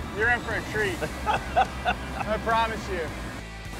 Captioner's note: laughs